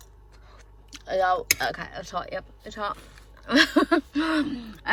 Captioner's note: laughs at self